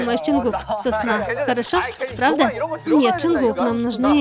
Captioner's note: arguing